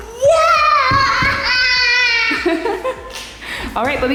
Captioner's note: mom laughing